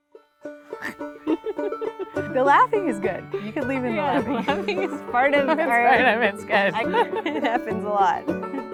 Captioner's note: unintelligible laughing